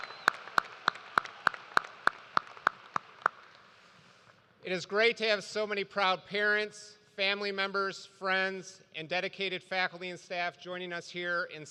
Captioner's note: cheers and applause